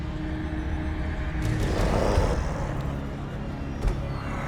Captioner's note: growl